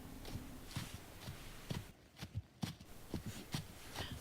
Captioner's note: sound of steps on the path